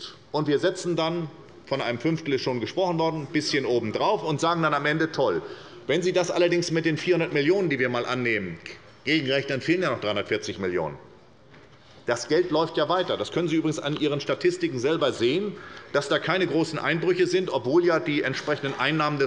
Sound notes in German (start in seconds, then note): none